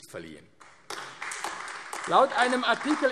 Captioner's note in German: Beifall AfD